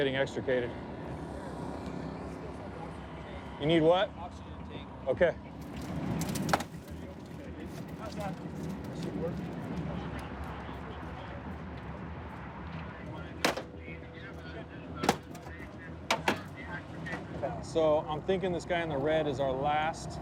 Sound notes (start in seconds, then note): 13.4 crack